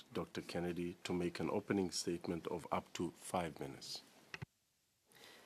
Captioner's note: speaking French